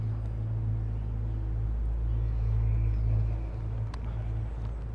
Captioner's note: students chattering